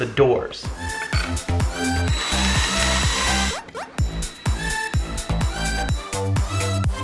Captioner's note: upbeat pop music; electric drill whirs